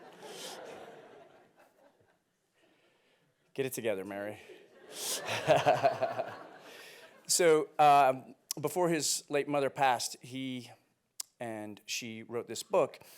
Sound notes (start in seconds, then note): 0.0 audience laughing; 4.8 audience laughing; 5.2 laughing